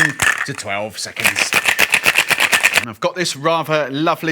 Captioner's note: cocktail shaker rattling